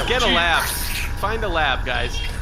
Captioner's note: loud slurping and beeping